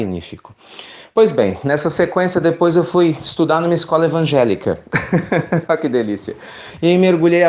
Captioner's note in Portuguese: Risos